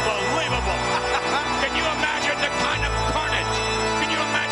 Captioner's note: laugh